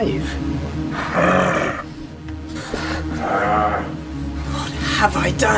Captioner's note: monster growling